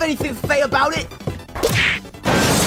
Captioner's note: wham; shattering